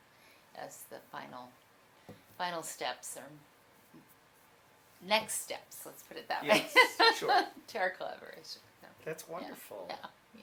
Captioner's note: laughs